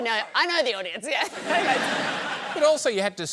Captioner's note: laughter